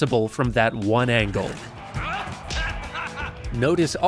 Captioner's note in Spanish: quejidos